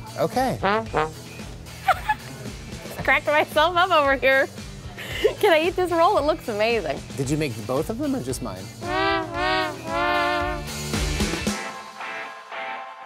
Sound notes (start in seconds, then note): 1.8 laughs